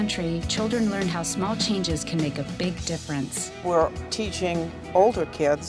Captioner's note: none